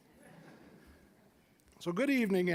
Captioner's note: scattered chuckling